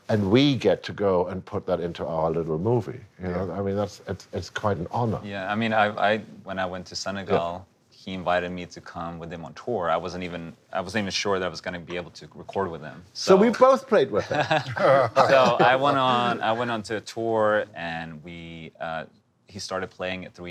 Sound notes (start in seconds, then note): 14.2 laughing